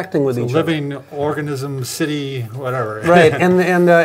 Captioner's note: laughs